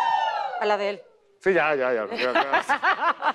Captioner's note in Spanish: Ríe